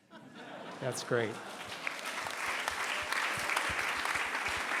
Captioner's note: laughing; applause